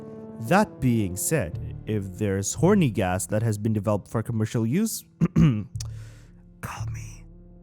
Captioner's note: ehem